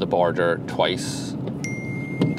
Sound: phone alert

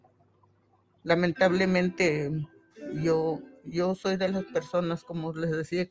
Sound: speaking in foreign language

